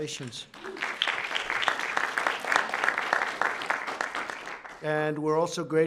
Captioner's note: applause